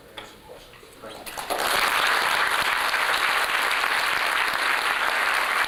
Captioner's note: applause